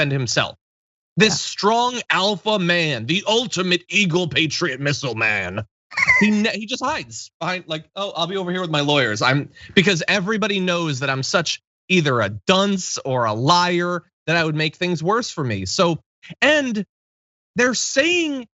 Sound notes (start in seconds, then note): 5.9 laugh